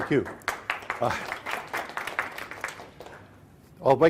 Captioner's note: applause